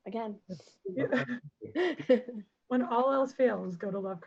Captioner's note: laughing